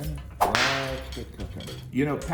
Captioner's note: whip snapping